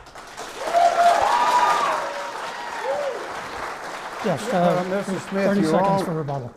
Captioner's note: clapping